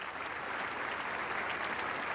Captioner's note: applause